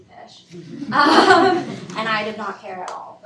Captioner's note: students laugh